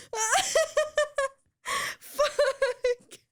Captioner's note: laughing